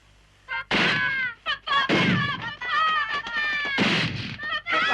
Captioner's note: screams continue